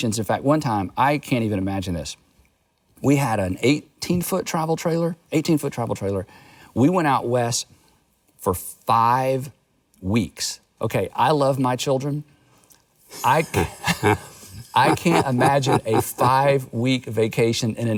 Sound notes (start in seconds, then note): 13.2 Charles laughs